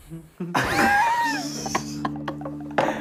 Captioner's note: laughing